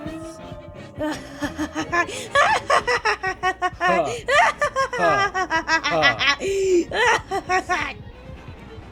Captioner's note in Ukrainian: божевільний сміх медика